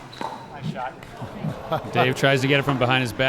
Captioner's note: laughing